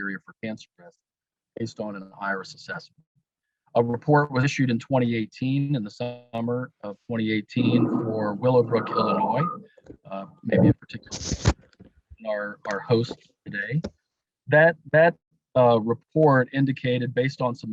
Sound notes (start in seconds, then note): 11.7 audio feedback